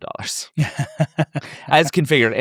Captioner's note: chuckles